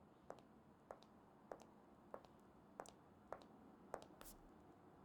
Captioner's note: footsteps tapping